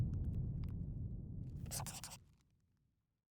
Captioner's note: scribbling